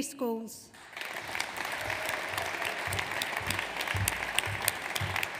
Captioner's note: audience applauds